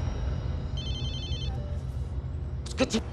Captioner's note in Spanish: Suena un celular